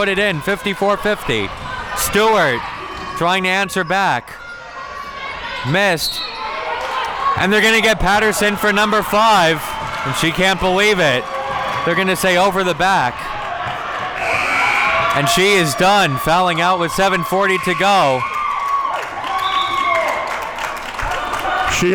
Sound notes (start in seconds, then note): 6.0 whistle blows; 14.2 buzzer blares; 18.3 audience cheering